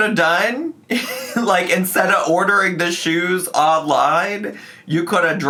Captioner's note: laughs